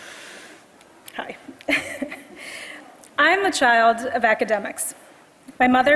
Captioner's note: laugh